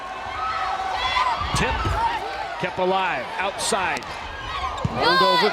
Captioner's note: players yelling